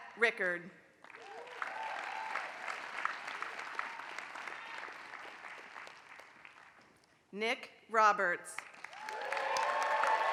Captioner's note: applause; applause